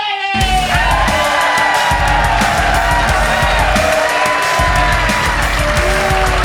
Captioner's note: audience cheers; audience claps